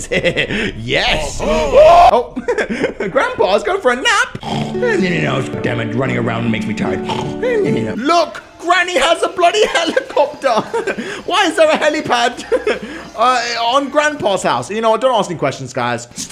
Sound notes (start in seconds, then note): 0.0 laughs; 1.4 screams; 4.4 grandpa snores